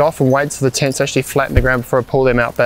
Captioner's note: thud